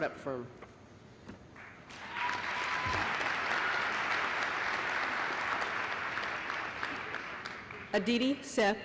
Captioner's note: applause